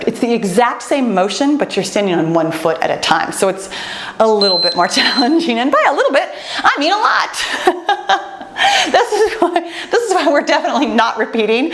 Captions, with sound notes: It's the exact same motion, but you're standing on one foot at a time. So it's a (timer beeps) little bit more challenging. And by a little bit, I mean, a lot. (laughs) This is why we're definitely not repeating